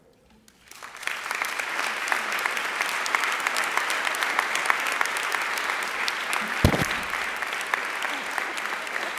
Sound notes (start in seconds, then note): 0.6 audience applauding